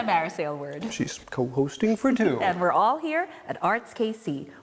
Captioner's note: laughs